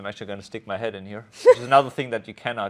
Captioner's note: laughs